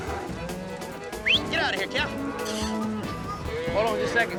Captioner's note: whistling